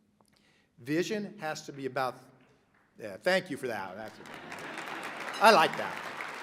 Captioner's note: laughter, applause; person claps